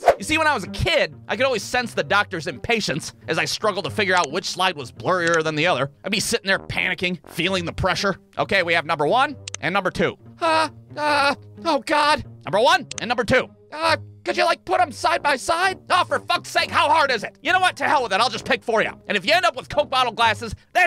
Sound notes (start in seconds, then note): 9.4 click!; 12.8 click!